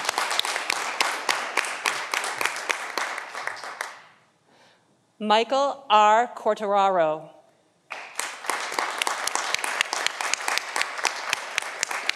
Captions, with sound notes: Michael R. Quartararo (audience applauding)